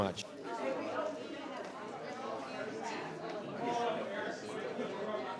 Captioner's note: attendees chattering